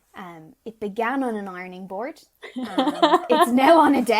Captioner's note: laughing